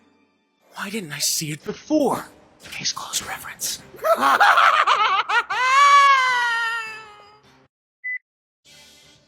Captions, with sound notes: Why didn't I see it before? [whispers] Case Closed reference. [Maniacal laughter]